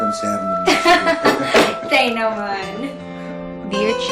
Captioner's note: both laugh